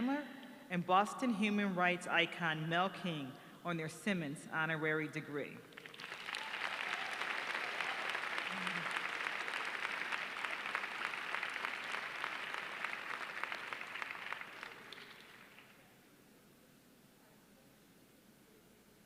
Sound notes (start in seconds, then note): 8.5 applause